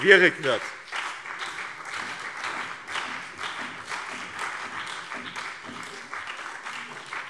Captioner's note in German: Beifall BÜNDNIS 90/DIE GRÜNEN, SPD und vereinzelt DIE LINKE